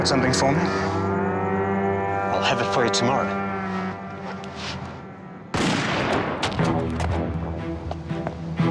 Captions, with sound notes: - Got something for me? - I'll have it for you tomorrow. (gun fires)